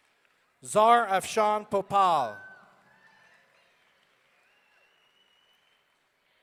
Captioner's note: audience cheering